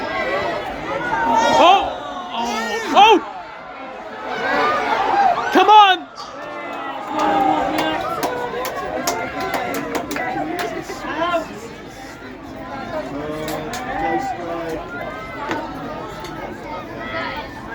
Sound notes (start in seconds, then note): 4.0 screams and cheers; 8.0 clapping